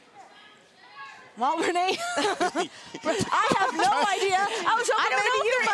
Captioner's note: laugh